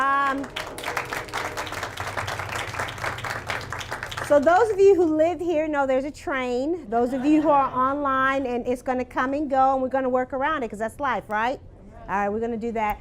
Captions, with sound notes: [Applause] So those of you who live here know there's a train. Those of you who are online, it's going to come and go and we're going to work around it because that's life, right? Alright we're going to do that.